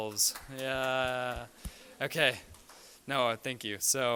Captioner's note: applause